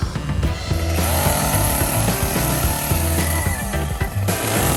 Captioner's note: chainsaw buzzing